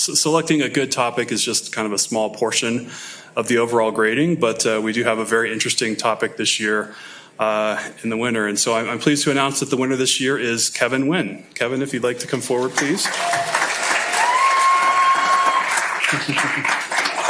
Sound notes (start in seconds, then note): 12.6 applause, cheering